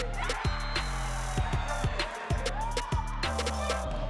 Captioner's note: cheering; applause; upbeat music